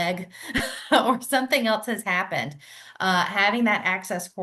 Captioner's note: laughs